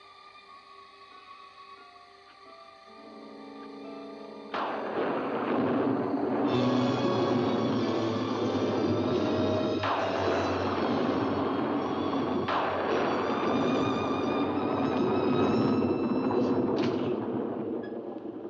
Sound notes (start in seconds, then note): 0.2 eerie music; 4.6 loud thunder; 6.5 suspenseful music; 16.4 door opens